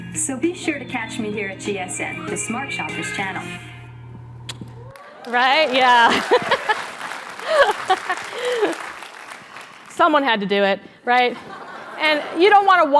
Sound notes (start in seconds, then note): 4.9 applause; 5.2 laugh